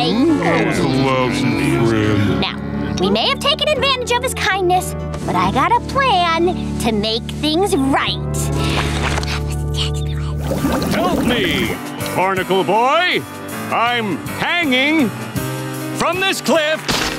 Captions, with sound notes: [chattering] Now, we may have taken advantage of his kindness, but I've got a plan to make things right. [whispering] Help me, Barnacle Boy! I'm hanging... from this cliff.